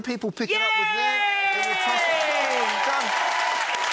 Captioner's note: audience applauding